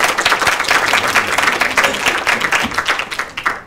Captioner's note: applause